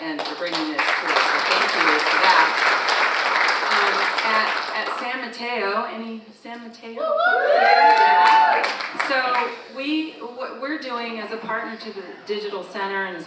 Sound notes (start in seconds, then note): 3.6 all applauding; 7.1 audience cheering; 7.6 audience member applauds